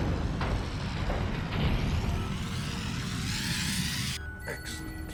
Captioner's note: whirrs, thuds; beetles whirring